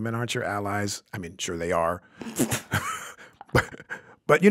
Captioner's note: laughs